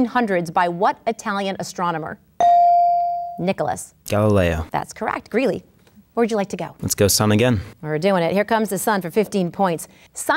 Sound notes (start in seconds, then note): 2.4 ding